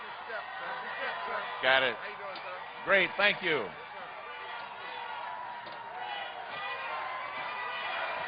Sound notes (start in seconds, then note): 2.7 cheers and applause